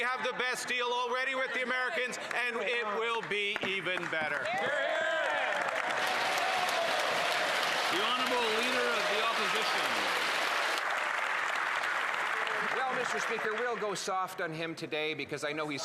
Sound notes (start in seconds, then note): 9.0 cheers & Applause